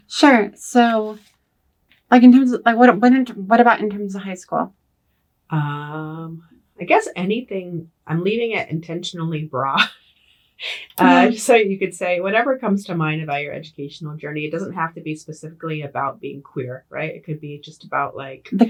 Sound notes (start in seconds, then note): 10.8 laughs